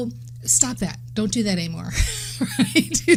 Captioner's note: laughing